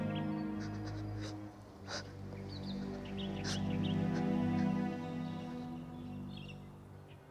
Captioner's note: soft sobbing